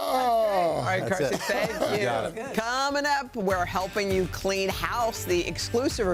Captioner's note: laughter